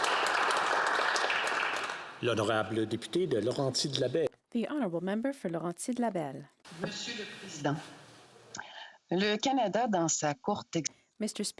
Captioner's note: applause